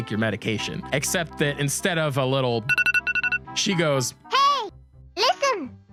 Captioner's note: iPhone alarm sound